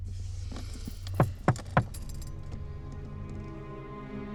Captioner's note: window knocks; suspenseful music